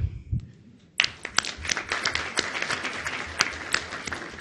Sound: audience applauds

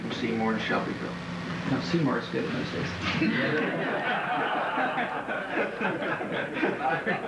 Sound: laughing

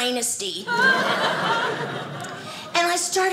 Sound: audience laughing

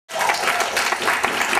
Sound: applause

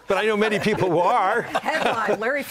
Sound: laughter

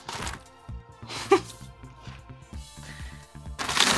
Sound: laughing

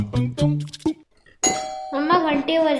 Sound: doorbell rings

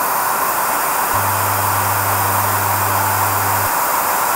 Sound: deep humming

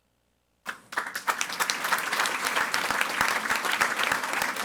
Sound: audience applauding

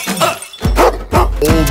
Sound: bark

